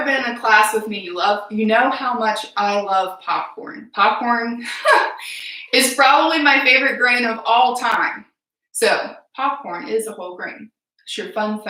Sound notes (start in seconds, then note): 4.6 laugh